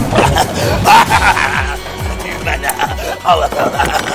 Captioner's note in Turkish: Kahkaha atar